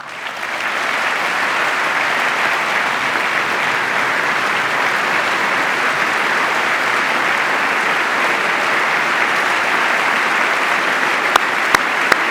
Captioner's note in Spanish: aplauso